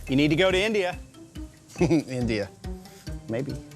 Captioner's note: chuckling